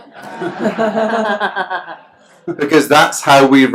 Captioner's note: laughs